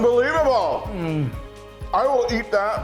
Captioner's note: hums